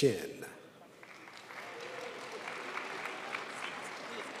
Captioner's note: crowd applauds